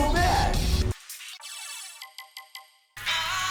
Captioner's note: the game makes menu noises